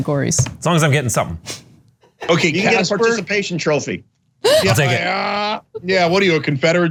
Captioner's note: laugh